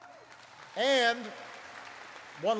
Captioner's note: applause